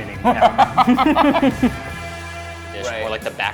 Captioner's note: laughter